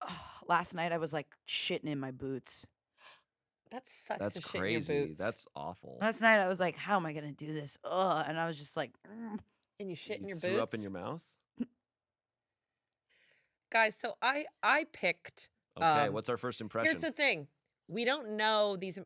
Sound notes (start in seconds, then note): 7.6 groans